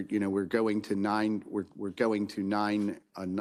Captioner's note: none